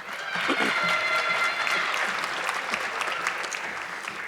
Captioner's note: audience clapping